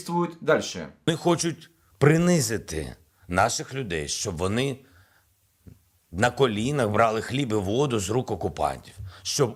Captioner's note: in Ukrainian